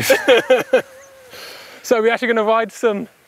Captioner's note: laughing